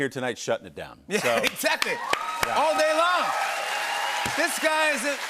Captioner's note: cheers and applause